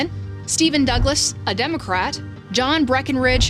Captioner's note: graphic whooshes